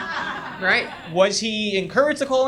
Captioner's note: audience laughs